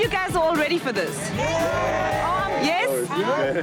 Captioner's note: crowd cheers